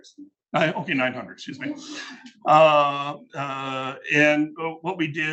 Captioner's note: attendees laughing